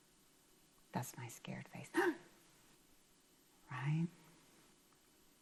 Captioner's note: gasps